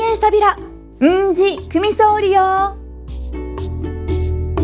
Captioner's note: in Okinawan